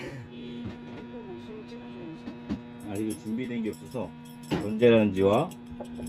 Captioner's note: microwave running